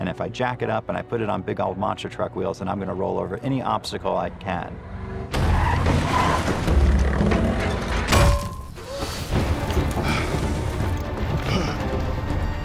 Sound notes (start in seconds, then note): 5.3 crashing; 8.0 bang; 9.4 heavy winds; 9.9 heavy breathing